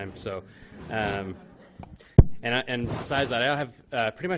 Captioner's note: laughing